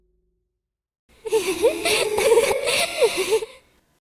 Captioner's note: unknown laugh